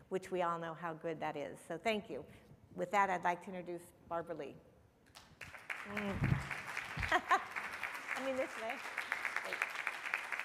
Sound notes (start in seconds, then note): 5.4 audience applauding; 7.0 laughing